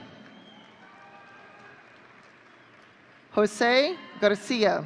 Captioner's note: audience cheering